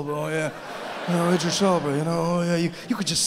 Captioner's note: audience laughing